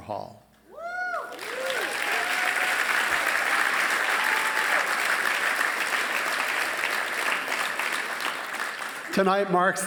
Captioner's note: applause